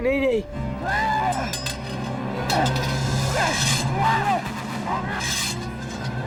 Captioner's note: yelling; metal clanking